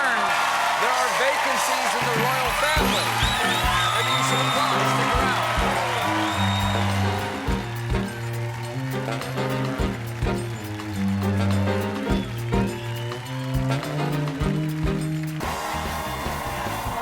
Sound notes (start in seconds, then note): 0.3 cheers and applause; 5.1 band playing; 5.1 cheers and applause